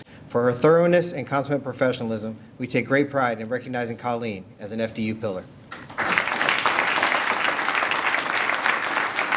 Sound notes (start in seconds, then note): 5.7 applause